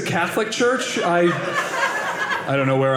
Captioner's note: audience laughing